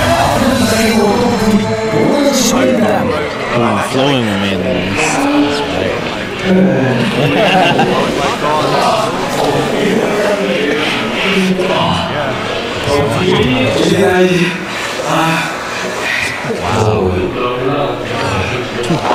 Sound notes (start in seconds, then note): 3.5 sighs; 4.5 heavy breathing; 6.6 groans; 11.8 heavy breathing